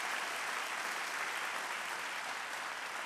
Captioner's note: applause